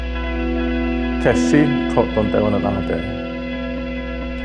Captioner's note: man speaking Zuni